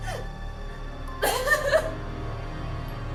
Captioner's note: sobbing